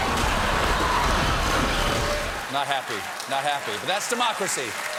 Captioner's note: screeching tires